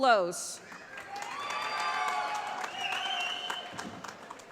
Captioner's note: applause